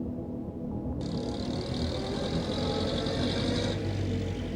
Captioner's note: engine rumbling